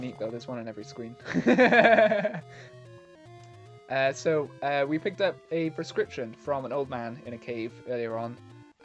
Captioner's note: laughs